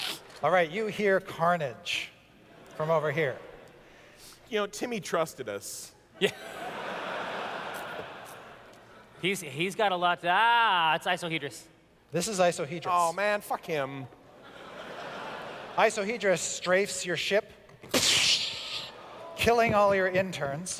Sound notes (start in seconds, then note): 14.3 laughter; 18.0 freezing breath weapon sound